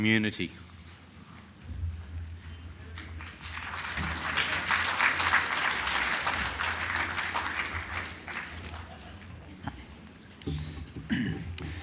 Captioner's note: clapping